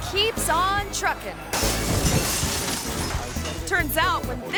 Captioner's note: truck smashes